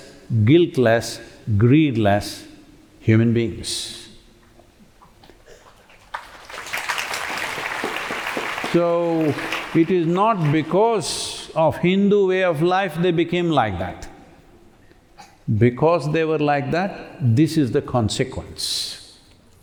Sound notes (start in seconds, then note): 5.7 applause